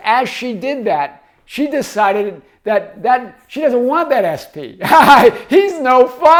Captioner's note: laughs